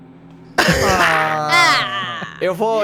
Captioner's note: laughter